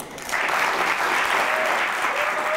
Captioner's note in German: Applaus